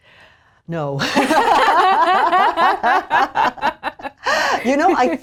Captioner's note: women laughing